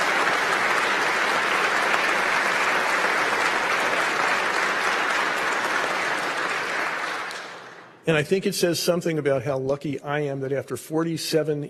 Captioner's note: applause